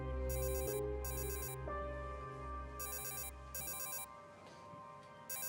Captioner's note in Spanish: suena el celular